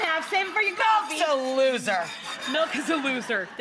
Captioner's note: audience laughs